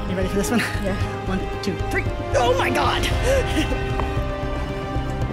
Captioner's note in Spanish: Risas